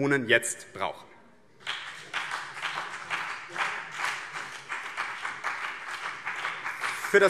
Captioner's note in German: Beifall BÜNDNIS 90/DIE GRÜNEN und CDU